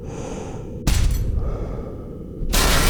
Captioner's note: bang; crash